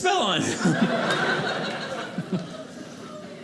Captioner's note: audience laughing